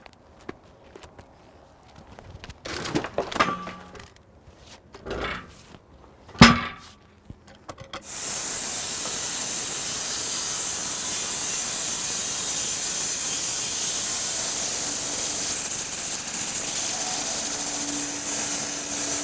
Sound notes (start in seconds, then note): 2.6 log clunking; 6.4 log clunking; 8.1 saw whizzing